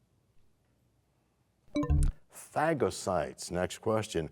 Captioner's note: bell chimes, time expires